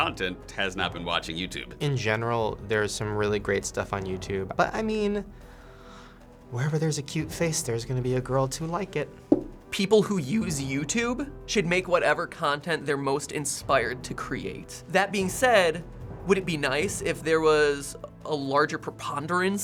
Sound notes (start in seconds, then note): none